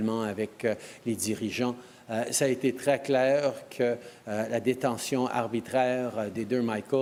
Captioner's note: speaking french